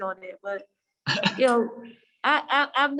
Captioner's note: laughing